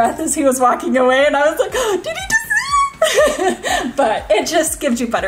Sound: giggles

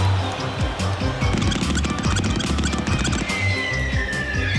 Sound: crowd gasps; rapid footsteps and squeaking noises; air whistling

